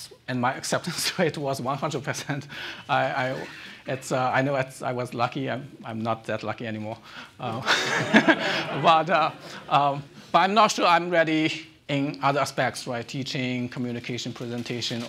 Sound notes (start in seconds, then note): 7.5 laughing; 7.5 audience laughing